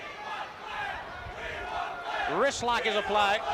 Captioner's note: crowd cheering; crowd chatter